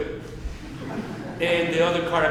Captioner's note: audience chuckling